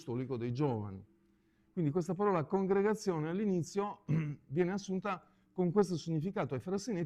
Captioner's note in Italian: schiarire la voce